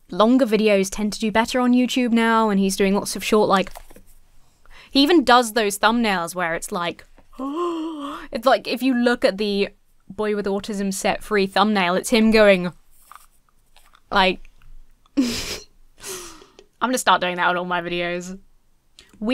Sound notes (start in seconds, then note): 7.4 gasps; 15.2 chuckles